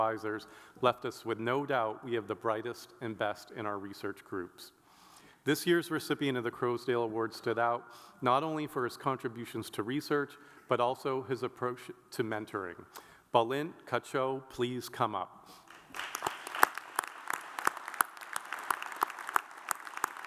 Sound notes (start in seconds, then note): 15.6 audience applauds